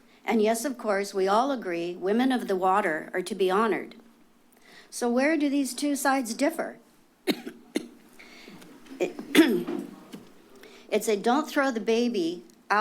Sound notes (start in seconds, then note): 7.2 coughs; 8.2 clears throat